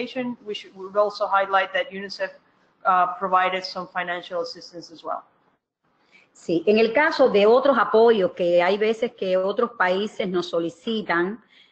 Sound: speaking another language

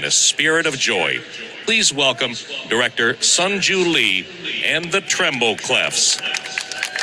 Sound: applause, cheering

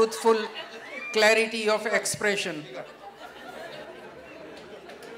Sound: laughter/Applause

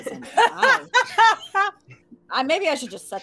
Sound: laughs

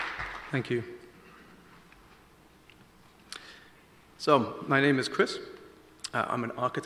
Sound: applause

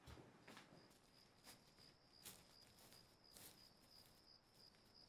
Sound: crickets chirping

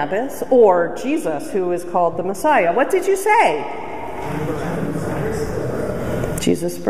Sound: crowd voices

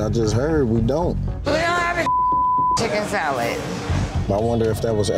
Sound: beep

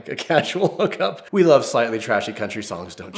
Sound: laugher

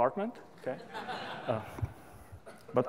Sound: laughter

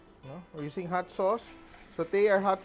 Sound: sizzle

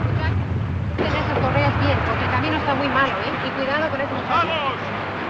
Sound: speaking Spanish; man Orating In Spanish

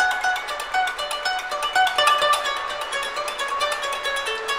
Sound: japanese music; rain falling

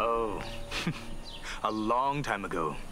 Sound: chortles

